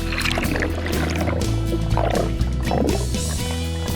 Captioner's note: water bubbles